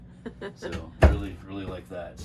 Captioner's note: laughing